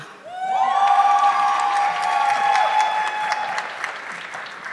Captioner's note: audience clapping